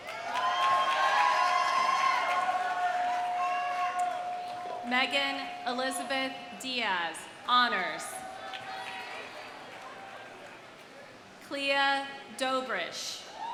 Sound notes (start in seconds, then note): 0.0 audience applauding; 0.0 audience cheering; 8.1 audience cheers; 8.2 audience applauds